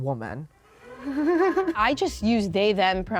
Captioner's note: giggles